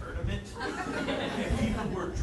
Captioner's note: audience laughing